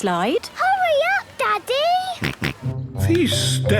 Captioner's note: George snorts